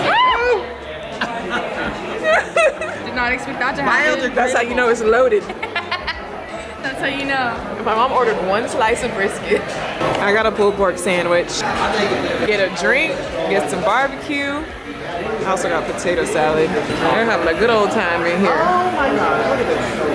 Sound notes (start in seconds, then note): 2.8 laughs; 5.1 laughs; 9.9 laughs